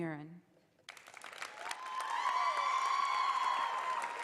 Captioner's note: applause